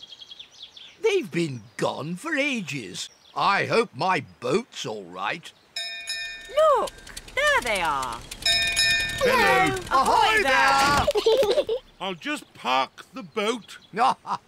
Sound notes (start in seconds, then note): 5.8 bell rings; 9.4 peppa and george giggle; 13.9 laughs